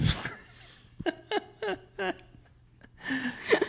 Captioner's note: both laugh